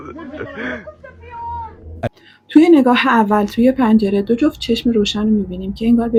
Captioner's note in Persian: خنده